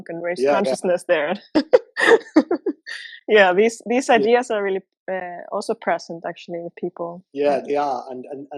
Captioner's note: laughter